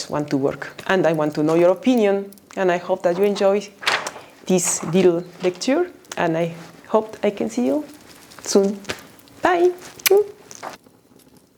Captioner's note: kiss